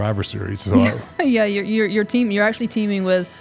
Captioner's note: laughs